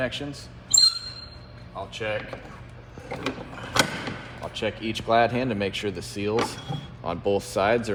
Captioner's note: air brakes squeaking